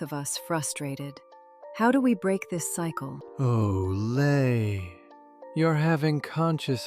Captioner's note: sympathetically